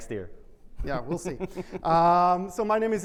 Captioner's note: laughs